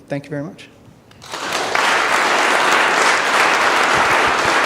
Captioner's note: audience applause